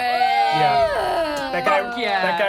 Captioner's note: group cheers